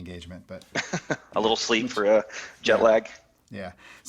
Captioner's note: laughs